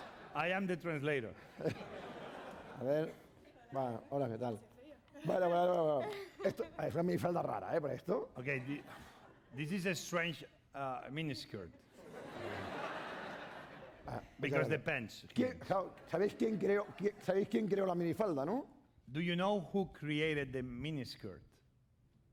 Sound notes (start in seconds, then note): 3.9 speaking spanish; 16.3 speaking spanish